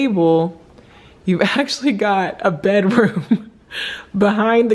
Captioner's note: laughing